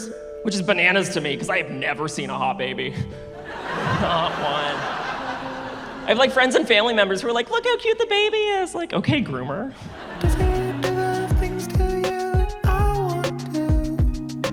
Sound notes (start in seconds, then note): 3.4 laughs